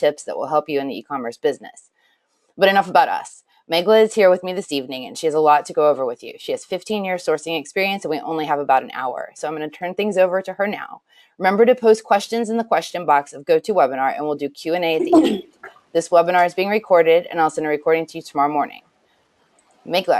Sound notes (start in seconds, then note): 15.0 clears throat